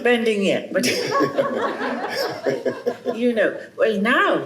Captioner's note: chuckles